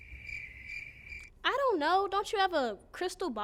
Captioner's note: crickets chirping